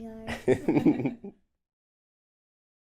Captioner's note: laughter